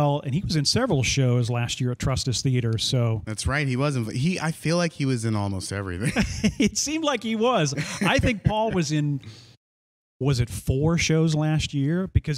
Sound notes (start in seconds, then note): 7.5 laughs